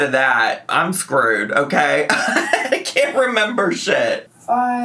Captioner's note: laughs